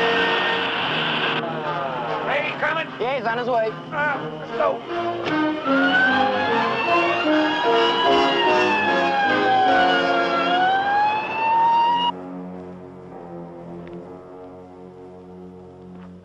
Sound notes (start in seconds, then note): 7.1 siren wailing; 9.9 dramatic music